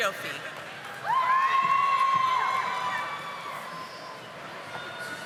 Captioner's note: audience applauding